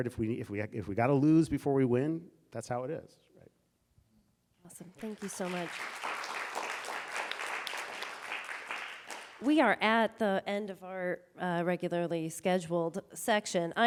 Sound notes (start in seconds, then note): 7.9 audience applauding